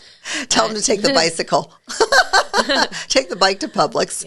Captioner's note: laughs; laughs